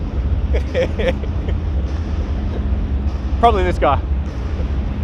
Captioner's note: chuckles